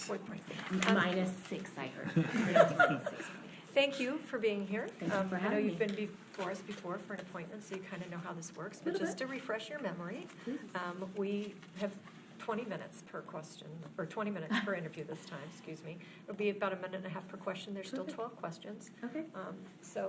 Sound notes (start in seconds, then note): 2.1 board laughs